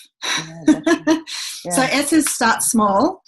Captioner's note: laughs